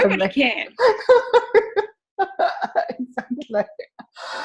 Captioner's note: laughing